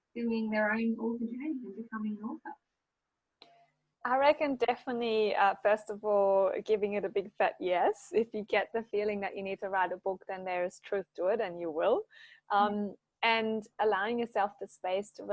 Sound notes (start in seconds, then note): none